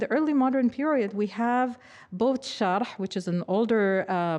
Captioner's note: speaking foreign language